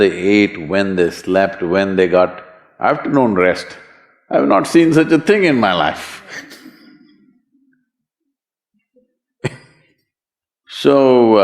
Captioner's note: laughs